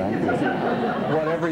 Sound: laughter

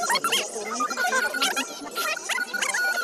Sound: buzzer

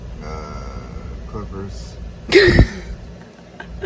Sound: laughing

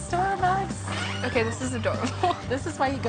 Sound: laughs

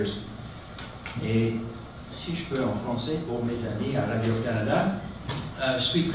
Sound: speaking in French

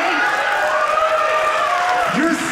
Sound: audience cheering

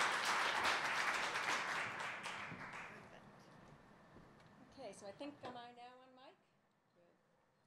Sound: applause

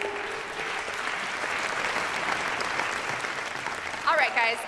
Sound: audience clapping

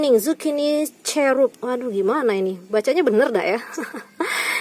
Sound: laugh

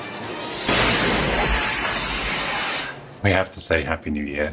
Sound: thunder roars; lightning crackles

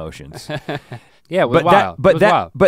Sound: Link chuckles

